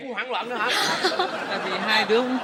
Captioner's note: laughing